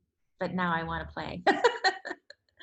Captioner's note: laughs